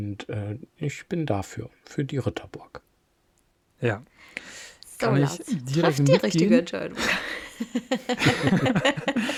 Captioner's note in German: gelächter